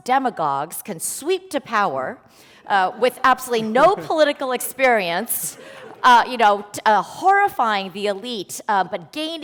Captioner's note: laughter